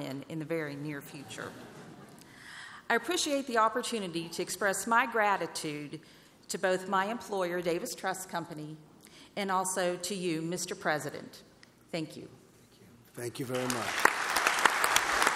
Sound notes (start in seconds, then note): 1.2 laughter; 15.1 applause